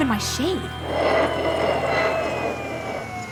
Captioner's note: yelling